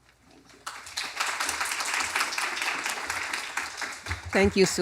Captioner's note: applause